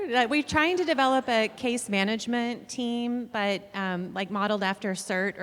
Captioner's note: none